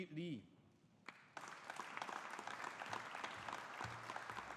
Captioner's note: audience applauding